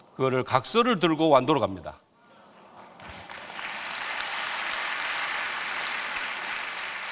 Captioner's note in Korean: 박수